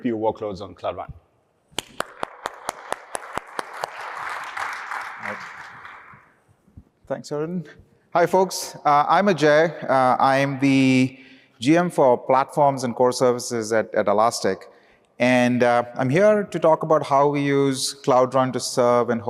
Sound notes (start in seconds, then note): 1.8 applause